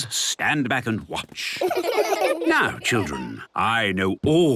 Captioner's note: laughter